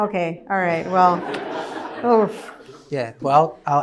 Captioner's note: laughter